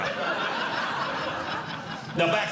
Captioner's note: audience Laughing